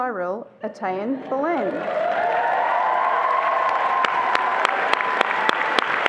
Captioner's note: attendees applauding and cheering